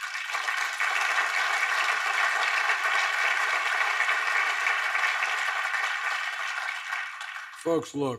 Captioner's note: applause